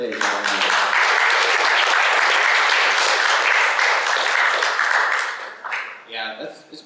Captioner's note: applause